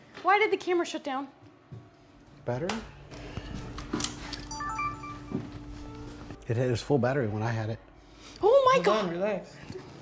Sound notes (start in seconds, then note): 4.4 camera chime